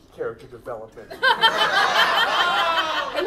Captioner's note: audience laughs